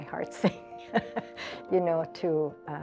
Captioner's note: laughs